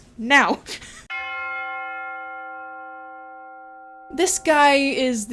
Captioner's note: bell chimes